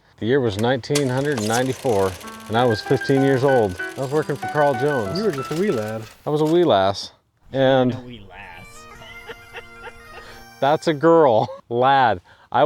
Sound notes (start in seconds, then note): 8.6 scottish bagpipe music; 9.1 laughing